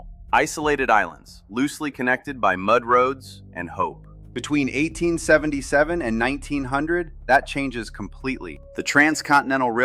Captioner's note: thoughtful